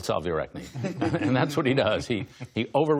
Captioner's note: laughter